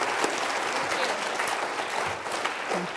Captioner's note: applause